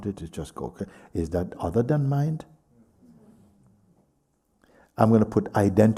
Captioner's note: voices in group